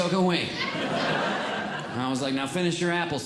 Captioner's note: audience Laughing